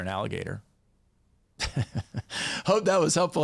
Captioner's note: chuckles